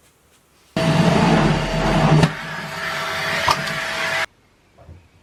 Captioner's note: hoovering